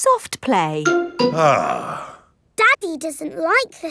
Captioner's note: sighs